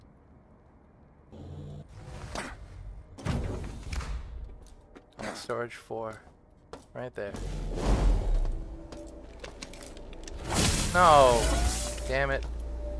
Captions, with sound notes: Storage four, right there. (gunshots) No, damn it.